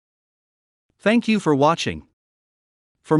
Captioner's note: voiceover